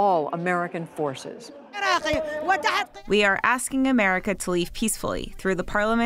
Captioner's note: through translator